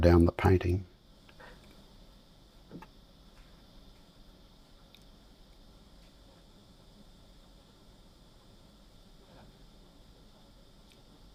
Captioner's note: silence